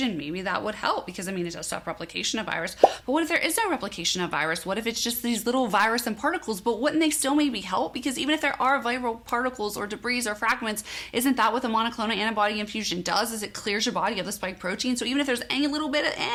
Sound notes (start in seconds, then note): 2.8 bubble popping